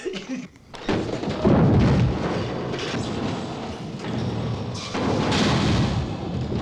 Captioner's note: house rumbling; furniture bangs